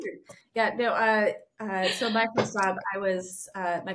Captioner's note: laughing